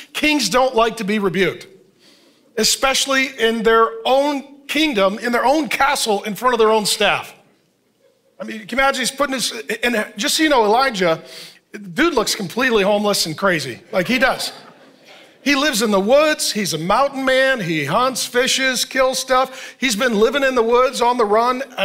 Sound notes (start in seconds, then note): 13.8 congregation laughing